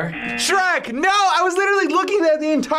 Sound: buzzer rings

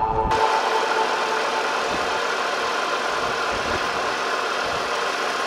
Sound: machinery engine revs

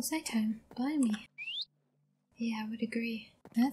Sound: daybreak chirps

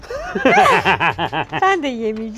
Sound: laughter

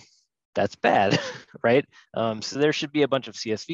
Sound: laughs

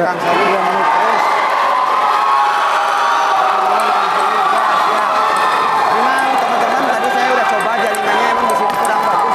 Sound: applause

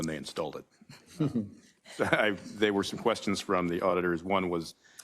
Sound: laugh

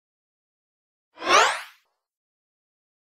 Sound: sound of zoom

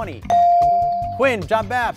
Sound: ding

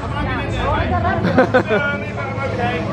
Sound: laughing

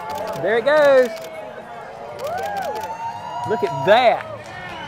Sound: crowd cheers

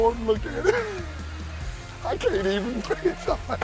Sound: laughs

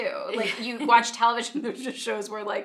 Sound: laughing

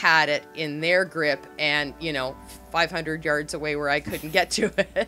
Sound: both laugh

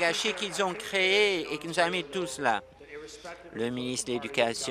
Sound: applause

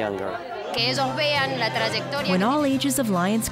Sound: speaking spanish

